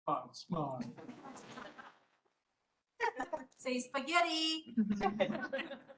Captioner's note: chatter